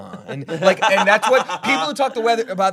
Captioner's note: laughing